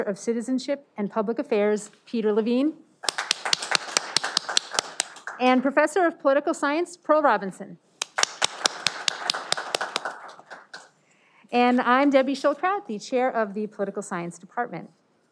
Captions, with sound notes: of Citizenship and Public Affairs, Peter Levine. (audience applauding) And professor of Political Science, Pearl Robinson. (audience clapping) And I'm Debbie Schildkraut, the Chair of the Political Science Department.